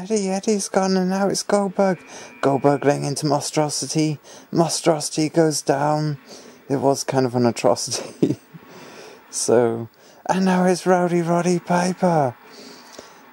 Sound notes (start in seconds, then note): 7.9 laughs